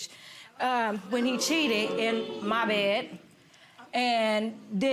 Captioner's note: audience oohing